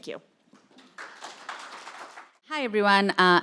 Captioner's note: audience clapping